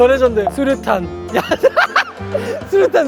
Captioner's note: laughing